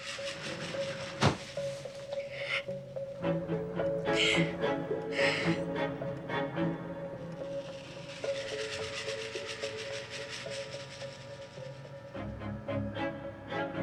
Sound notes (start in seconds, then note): 2.4 Karen crying; 6.5 intense music